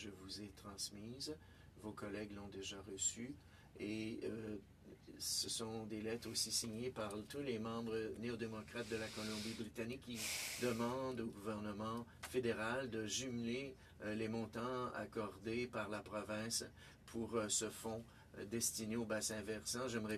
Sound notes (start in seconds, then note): 7.7 speaking French